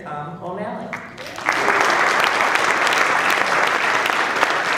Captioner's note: applause